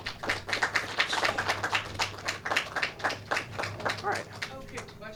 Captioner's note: clapping